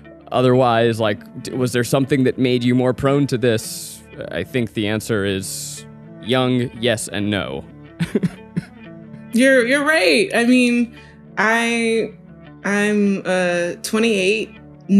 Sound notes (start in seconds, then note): 8.0 chuckles